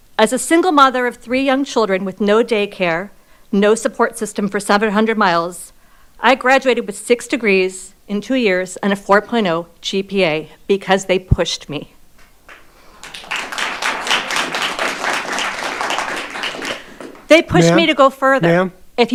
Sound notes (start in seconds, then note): 12.4 audience applauding